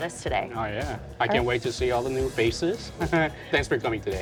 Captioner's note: chuckles